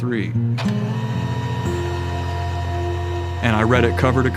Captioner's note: printer whizzing